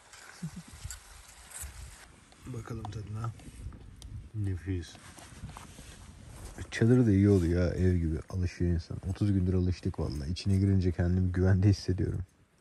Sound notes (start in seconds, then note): 2.4 whispers